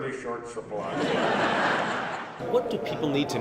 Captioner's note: laughter